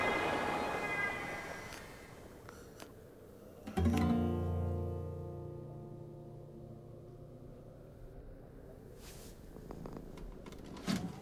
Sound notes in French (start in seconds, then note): 9.5 ronronnements